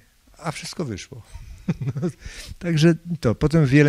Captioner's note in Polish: śmiech